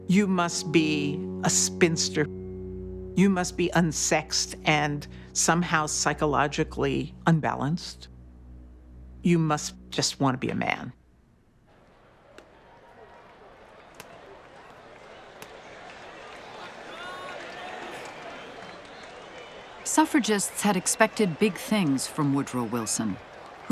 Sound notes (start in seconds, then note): 11.9 crowd cheering; 16.3 people talking in background, band playing in distance